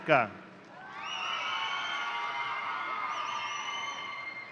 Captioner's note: audience cheering